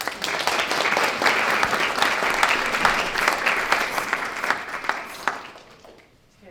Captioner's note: applause